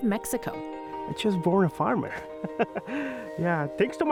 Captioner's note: chuckles